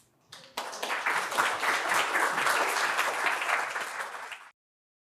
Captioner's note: audience clapping